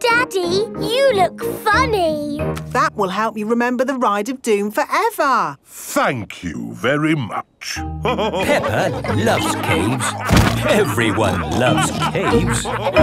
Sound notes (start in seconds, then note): 8.0 all laughing